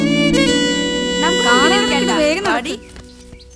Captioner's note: indistinct chatters